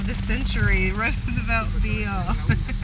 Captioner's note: laughter